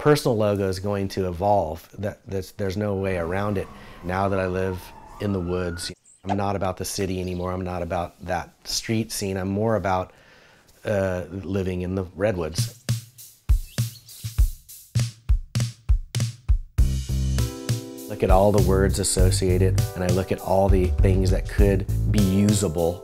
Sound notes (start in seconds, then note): 5.7 sirens; 7.1 birds chirping; 12.5 fun funky music; 13.6 birds chirping